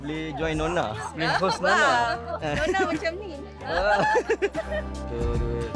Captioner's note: laugh